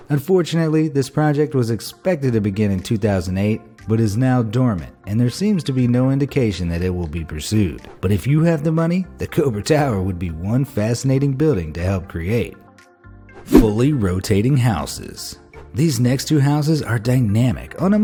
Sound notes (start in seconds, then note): 13.5 graphic whooshing